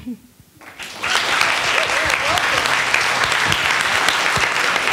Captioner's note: attendees applauding